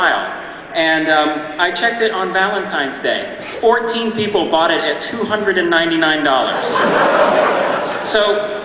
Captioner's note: crowd oohs